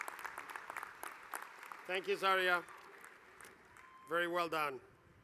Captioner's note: applause